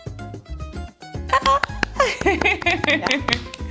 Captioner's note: applauds; laughs and applauds